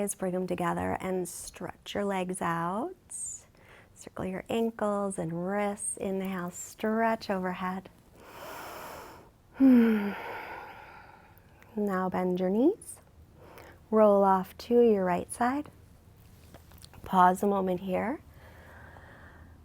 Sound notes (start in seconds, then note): 8.2 breathing deeply